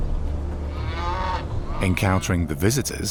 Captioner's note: cow mooing